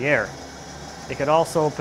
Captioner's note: engine whirring